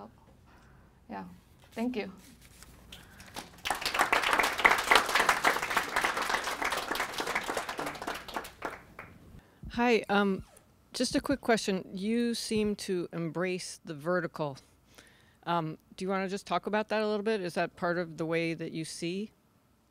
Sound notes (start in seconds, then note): 2.9 clapping